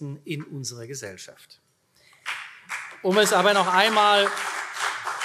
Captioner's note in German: Beifall CDU